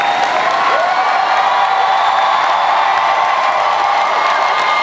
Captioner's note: crowd cheers louder